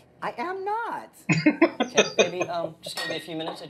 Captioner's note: laughing